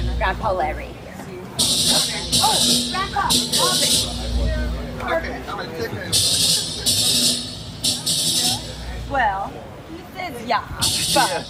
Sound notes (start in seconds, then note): 6.5 chatter